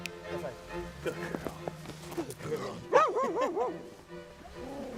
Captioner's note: dog barks; dog growls; laughs